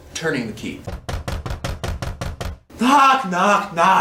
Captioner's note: knocking within